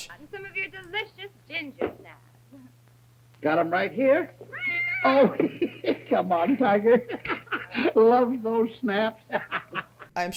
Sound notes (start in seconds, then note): 4.5 meow; 7.3 laughing